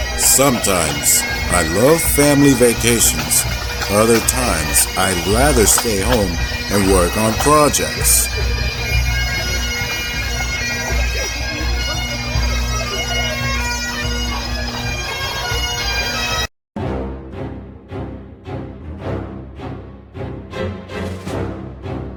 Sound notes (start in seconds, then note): 8.6 bagpipe music; 11.7 crowd chattering; 16.8 intense music